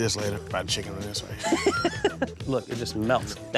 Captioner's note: laughing